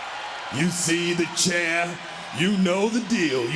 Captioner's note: crowd cheering